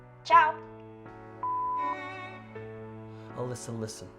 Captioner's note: voicemail beeps